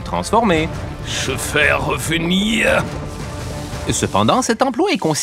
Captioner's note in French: accent autrichien